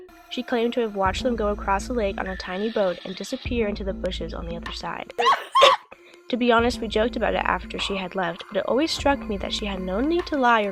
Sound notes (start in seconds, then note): 5.2 laughs